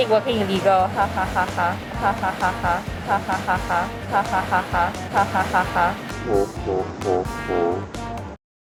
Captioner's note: stilted laughter